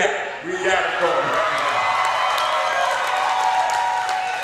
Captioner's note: audience cheers